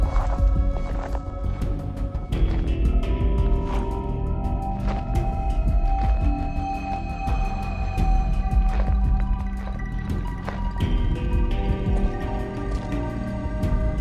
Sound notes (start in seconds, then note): 0.1 gravel crunches; 4.8 footsteps crunching; 10.6 slow music continues